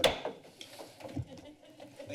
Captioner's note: gavel tap; laughter